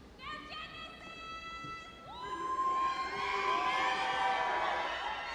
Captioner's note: audience yelling and cheering